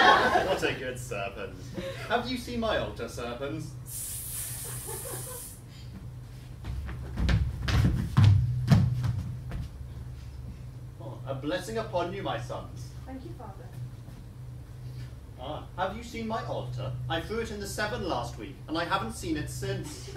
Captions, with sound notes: What a good serpens. Have you seen my altar, Serpens? [snake hissing] [stomping] A blessing upon you, my sons. Thank you, father. Have you seen my altar? I threw it in the Severn last week and I haven't seen it since.